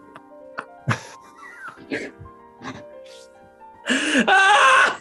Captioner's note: quiet giggling; howling laugh